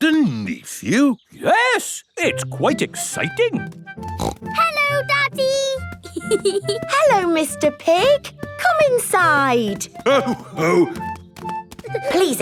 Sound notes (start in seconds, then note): 4.1 snorts; 6.0 giggling